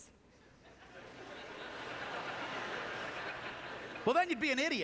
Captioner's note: audience laughter